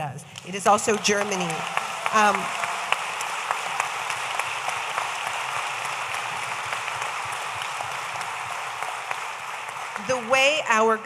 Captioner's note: audience applauding